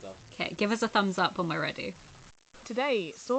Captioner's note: none